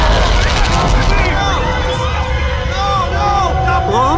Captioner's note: awful twisting grunts; screams